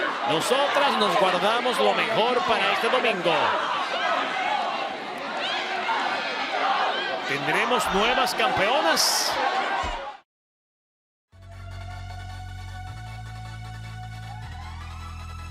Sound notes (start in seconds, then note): 3.9 applause